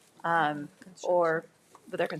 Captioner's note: speaks faintly